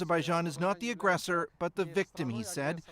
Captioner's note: speaking Foreign Language